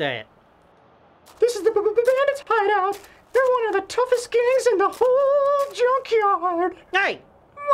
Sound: stuttering

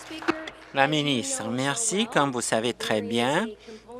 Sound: applause

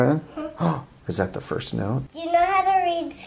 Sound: gasps

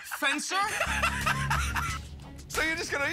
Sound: laughter

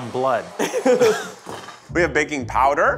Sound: laughing

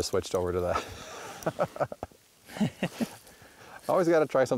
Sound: laughter

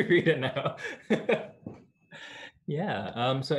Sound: laughter

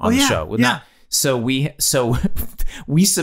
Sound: Glenn laughing

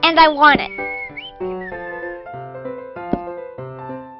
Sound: whistling

